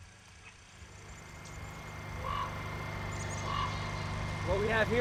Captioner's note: generator droning